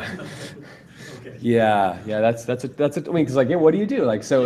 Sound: laughter

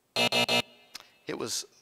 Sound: buzz

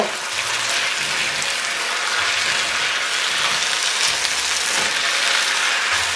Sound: beef and broccoli sizzling

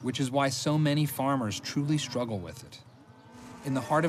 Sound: cows mooing

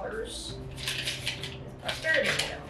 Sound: bill crinkles

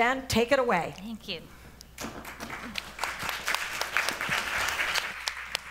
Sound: applause

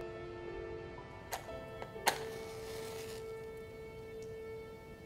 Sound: match striking

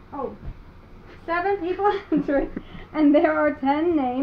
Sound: chuckles

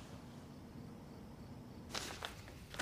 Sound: none

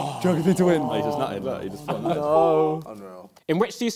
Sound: crowd mumbling

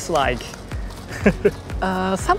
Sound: chuckles

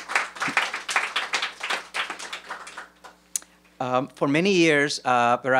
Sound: applause

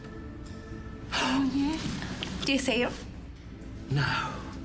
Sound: gasps

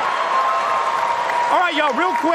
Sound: applause

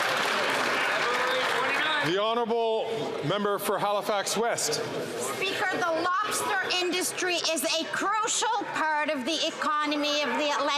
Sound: some Applause

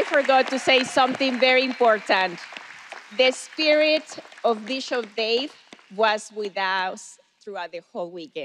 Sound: cheers and applause

